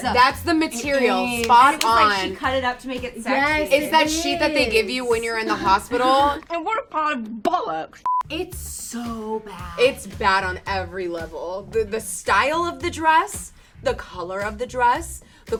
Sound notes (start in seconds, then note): 8.0 beep